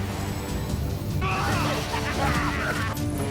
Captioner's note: scarecrow cackles